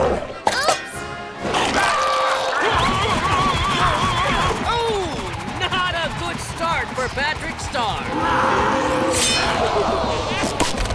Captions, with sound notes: Oops. [screaming] Oh. Not a good start for Patrick Star. [roaring] Oh!